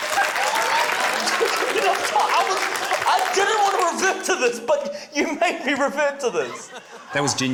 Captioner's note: laughs